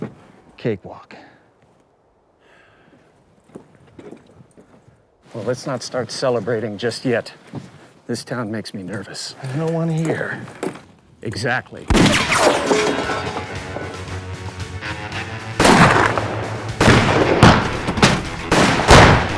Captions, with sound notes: Cakewalk. Well, let's not start celebrating just yet. This town makes me nervous. There's no one here. Exactly [GUNSHOT] [GUNSHOTS]